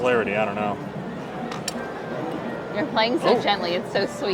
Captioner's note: spring boings and ball rattles